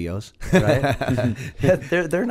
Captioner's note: laughter